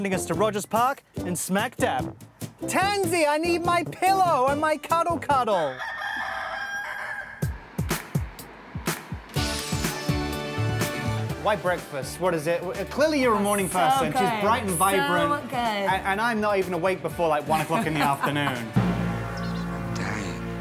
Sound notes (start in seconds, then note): 5.6 rooster crowing; 7.4 hip hop beat